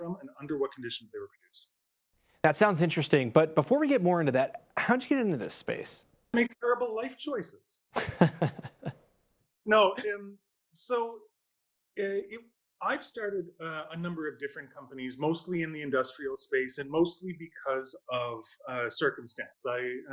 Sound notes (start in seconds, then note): 7.9 laughs